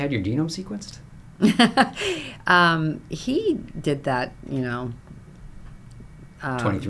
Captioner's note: laughs